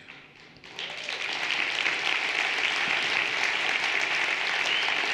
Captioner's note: everyone applauding